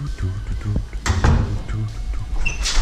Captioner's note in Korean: 문닫는 소리